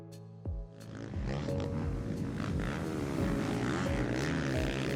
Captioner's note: engine roaring